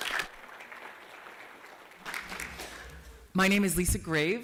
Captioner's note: applause